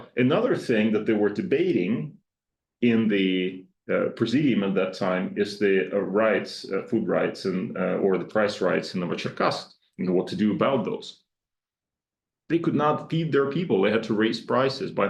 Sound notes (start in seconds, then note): 9.4 speaks Russian